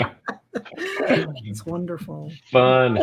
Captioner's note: laughter